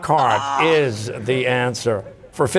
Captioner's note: groans